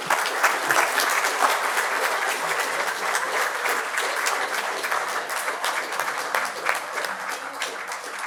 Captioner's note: clapping